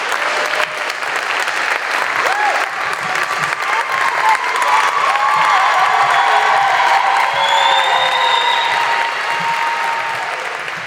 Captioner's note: applause